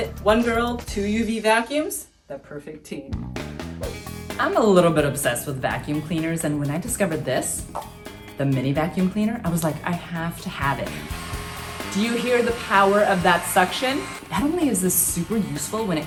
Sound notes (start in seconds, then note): 3.5 upbeat music; 10.6 vacuum running